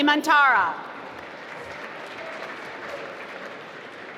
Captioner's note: applause